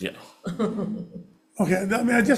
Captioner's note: chuckles